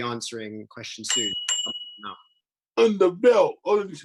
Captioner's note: bell ringing